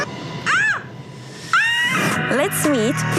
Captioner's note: screaming